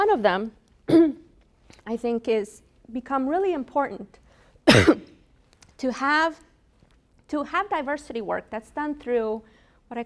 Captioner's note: coughs